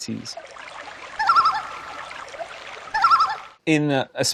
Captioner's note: canadian loon singing